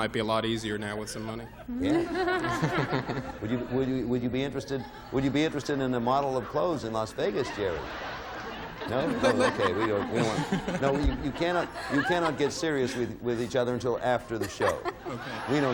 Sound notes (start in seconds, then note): 1.4 laughs; 9.2 stammers